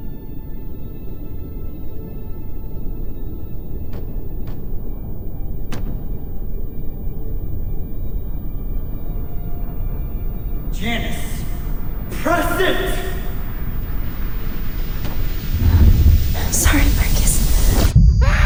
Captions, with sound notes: (somber music) (Bill knocks) Janice, press it! - I'm sorry, Marcus.